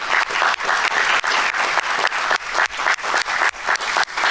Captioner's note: audience applauding